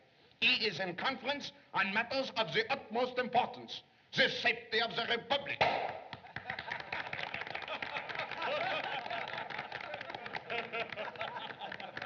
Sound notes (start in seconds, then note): 5.6 champagne Cork Pops; 6.2 laughter, Applause